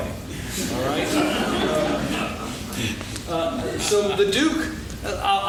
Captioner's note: laughing